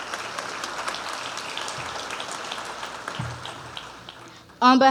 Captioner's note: cheers and applause